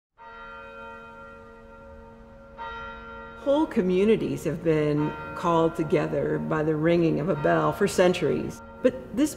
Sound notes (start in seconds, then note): 0.5 church bells ringing